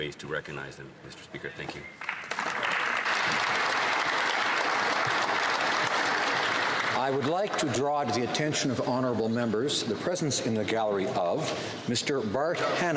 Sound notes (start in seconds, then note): 5.6 some Applause